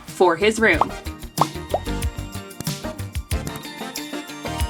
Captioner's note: bubbles popping